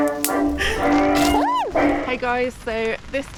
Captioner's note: screech